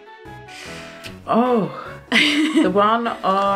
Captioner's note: cheery music; laughs